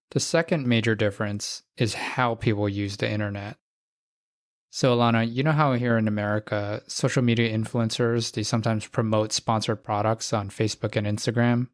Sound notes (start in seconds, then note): none